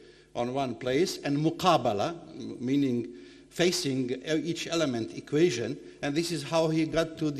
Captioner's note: speaking foreign language